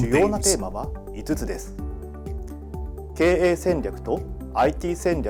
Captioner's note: speaks in Japanese